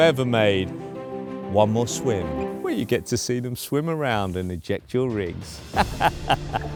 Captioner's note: laughs